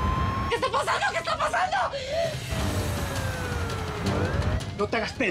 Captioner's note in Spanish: sirenas